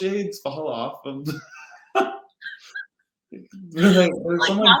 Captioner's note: laughing